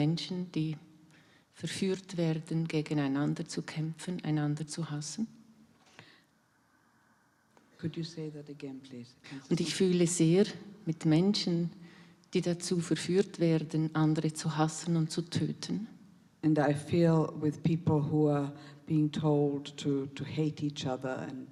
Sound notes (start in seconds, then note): 0.0 in German; 9.5 in German